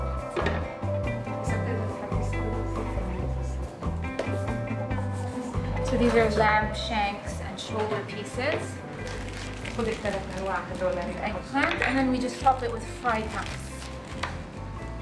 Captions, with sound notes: (speaking Arabic) So these are lamb shanks and shoulder pieces. - (woman speaking Arabic) - And eggplant and then we just top it with fried nuts.